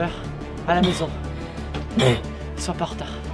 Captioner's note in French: Tousse